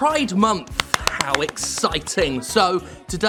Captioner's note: claps